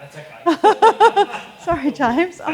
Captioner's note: both laugh